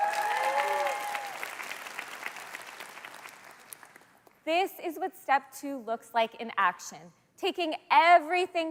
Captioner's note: cheers and Applause